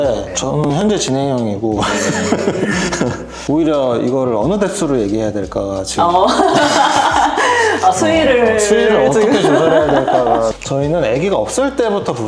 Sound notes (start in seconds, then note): 6.0 laughs